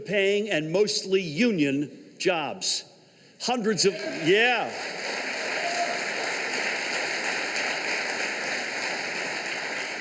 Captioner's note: applause